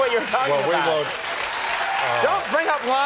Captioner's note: crowd applauds